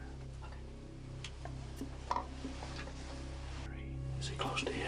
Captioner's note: whispering